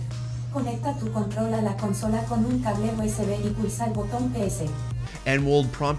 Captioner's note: console voiceover speaking in foreign language